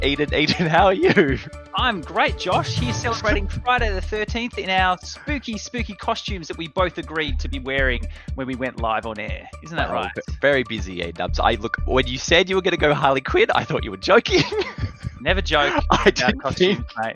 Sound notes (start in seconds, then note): 15.1 laughs